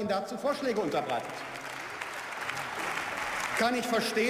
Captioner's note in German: Beifall